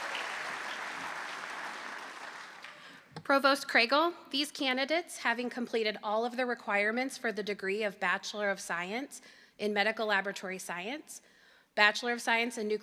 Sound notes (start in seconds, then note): 0.0 applause